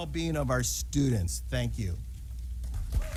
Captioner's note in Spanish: aplausos